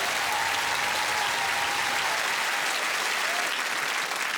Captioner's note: applause